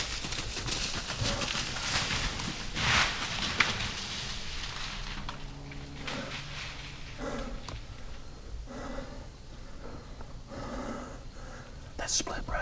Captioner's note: whispering